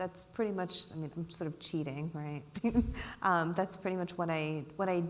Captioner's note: giggles